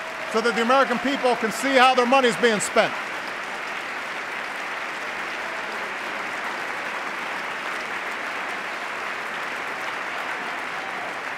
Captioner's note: applause